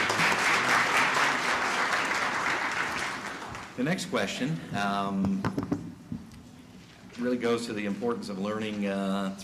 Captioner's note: applause